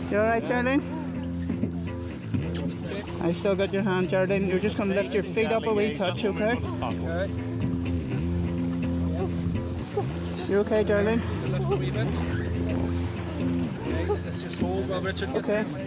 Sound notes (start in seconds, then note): 9.4 moans